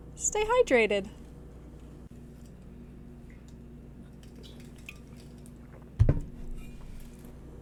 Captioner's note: sounds of water bottles hitting desks